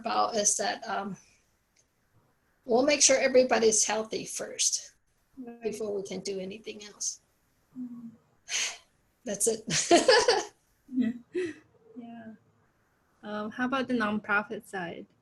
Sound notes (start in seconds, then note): 9.7 both laugh